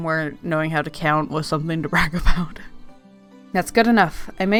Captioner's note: laughs